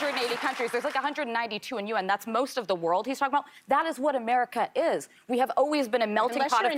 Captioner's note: applause